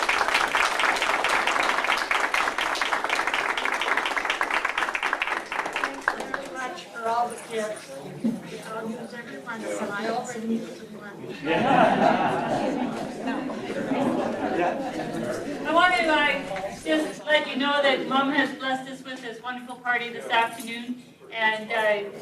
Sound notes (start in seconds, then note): 0.0 crowd applause; 14.4 crowd laughs